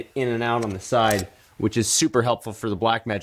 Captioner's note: gentle clicking sound